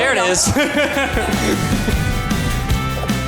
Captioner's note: laughing